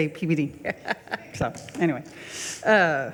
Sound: laughs

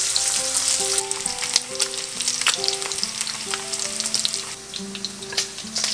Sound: sizzle

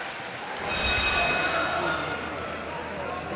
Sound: buzzer

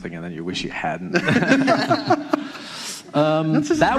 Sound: laughing

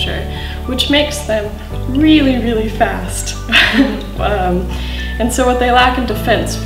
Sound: laughs

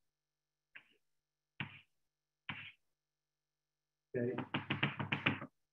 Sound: blackboard clicking

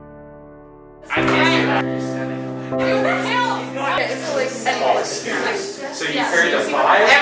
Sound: class noises

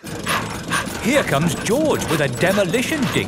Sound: daddy pig panting

